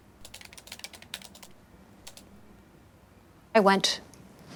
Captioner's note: typing clicks